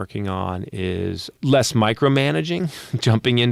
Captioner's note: chuckling